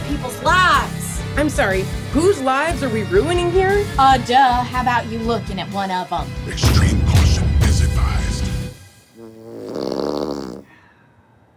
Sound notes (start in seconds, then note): 9.1 fart sound